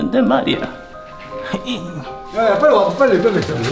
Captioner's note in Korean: 힘겨운 탄성